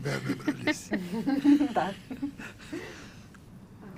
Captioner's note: laughing